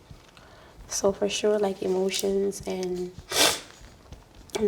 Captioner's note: sniffs